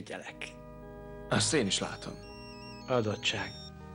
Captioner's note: cell phone rings